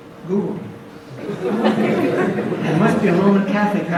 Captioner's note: audience laughs